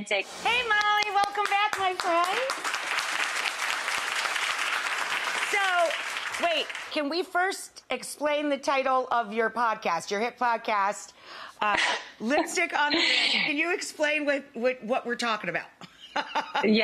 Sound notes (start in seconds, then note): 0.7 claps; 2.4 audience clapping; 12.8 Molly chuckles; 15.9 laughs